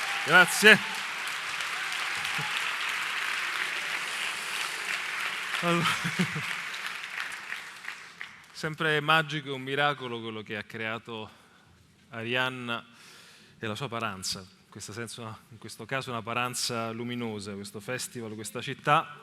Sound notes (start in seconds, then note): 0.0 applause